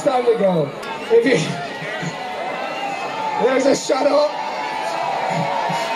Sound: laughing

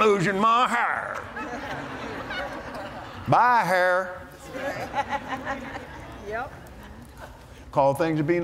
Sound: laughter

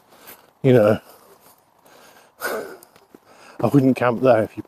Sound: laughs

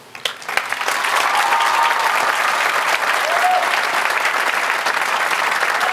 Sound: cheers and Applause

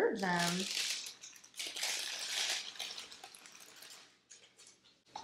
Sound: crinkling paper

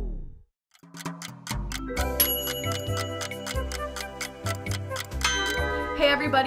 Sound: clock ticking; playful music

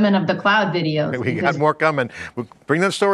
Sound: laughs

